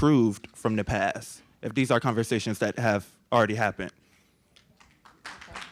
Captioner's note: applause